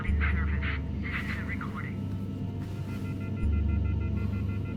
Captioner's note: phone beeping